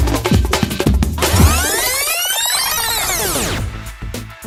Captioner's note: rewinding sound